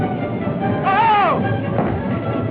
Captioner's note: yelling